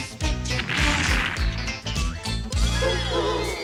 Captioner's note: explosion